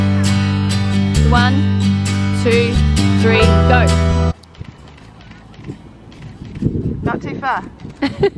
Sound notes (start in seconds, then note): 4.7 camera shutter